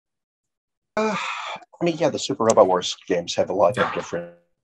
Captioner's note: sighs